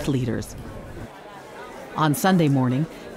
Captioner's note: people chattering